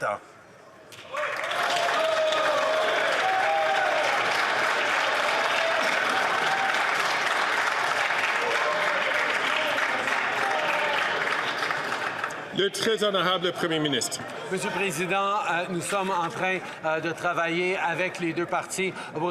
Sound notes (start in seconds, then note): 11.9 applause